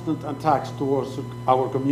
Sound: speaking foreign language

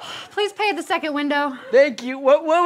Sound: sighs

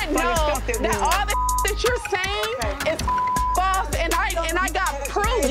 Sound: beep

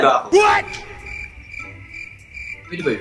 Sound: cricket sound

